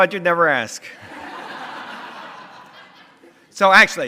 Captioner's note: audience laughter